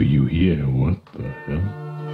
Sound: quietly

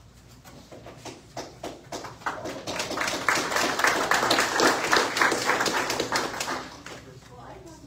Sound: scattered applause

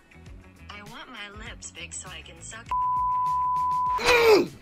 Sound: automated Voice; beep; vlogger groans

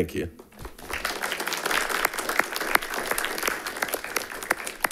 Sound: audience applauds

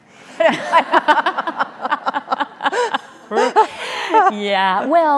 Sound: laughing

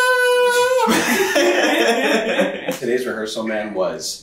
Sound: all laughing

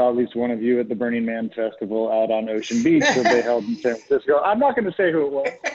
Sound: laughter

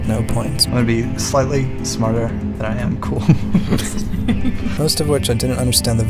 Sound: laughing

